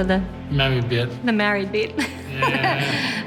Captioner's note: laughs